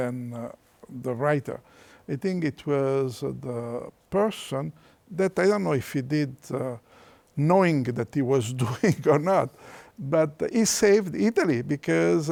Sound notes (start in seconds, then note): 9.4 chuckles